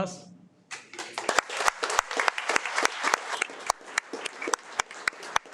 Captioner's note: audience applauding